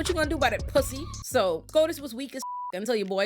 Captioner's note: beep